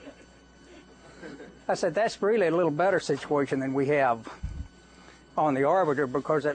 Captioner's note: laughter